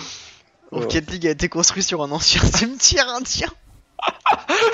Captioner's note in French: rires